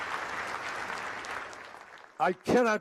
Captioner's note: applause